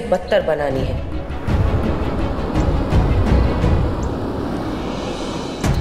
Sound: car moving

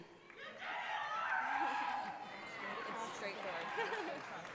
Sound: audience cheers

